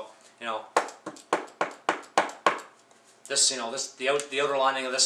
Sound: fingers knocking

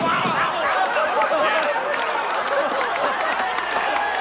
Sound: crowd applauding; men cheering

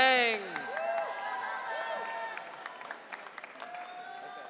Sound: audience cheering

